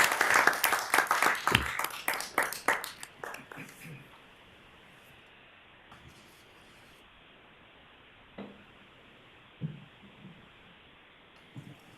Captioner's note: applause